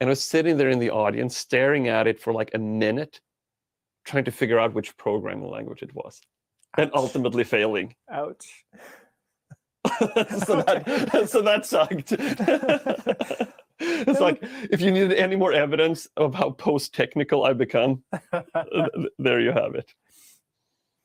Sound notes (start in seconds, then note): 9.8 both laugh